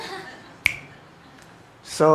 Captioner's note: audience chuckles